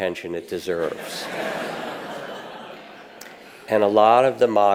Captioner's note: audience laughs